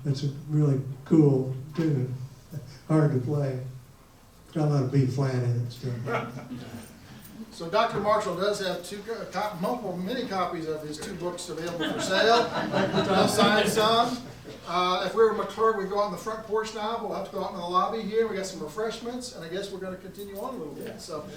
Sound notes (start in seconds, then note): 5.9 man laughs; 11.7 audience laughs